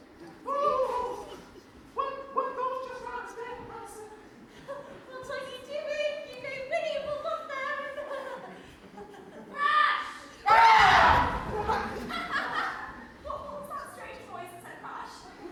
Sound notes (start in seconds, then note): 8.1 giggles nervously; 9.3 crash; 10.5 everyone screams